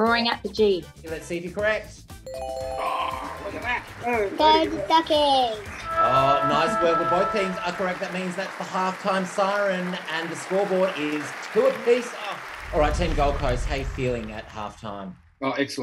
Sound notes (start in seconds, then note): 2.2 bell ringing